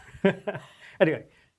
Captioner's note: laughs